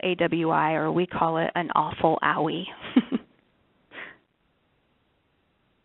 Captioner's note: chuckles